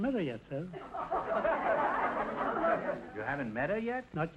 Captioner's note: audience laughter